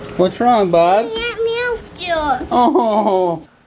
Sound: child mumbling; laughing

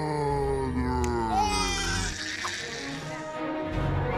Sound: Baby Ted Crying

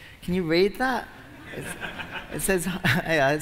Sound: laughter

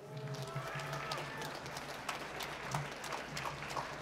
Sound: applause

